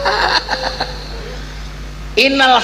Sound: laughs

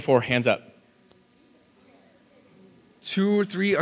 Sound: audience chatting

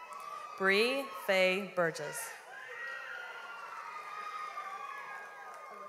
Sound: audience applauds

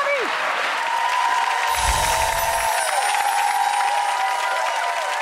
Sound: audience clapping and cheering

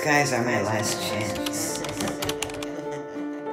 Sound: laughter

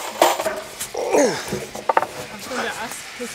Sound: groan

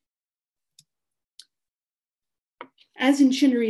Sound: mouse clicking

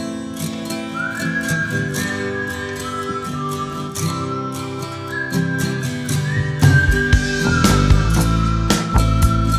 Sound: whistling

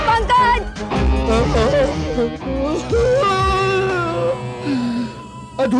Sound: sobbing

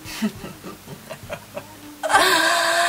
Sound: chuckles

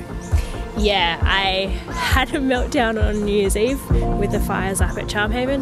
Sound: chuckles

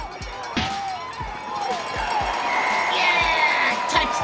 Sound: cheers

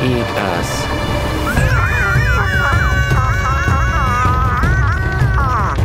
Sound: screaming

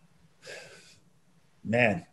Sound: John sighs

